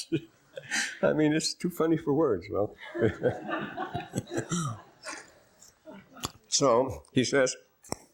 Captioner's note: laughter